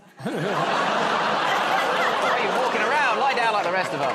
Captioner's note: audience groans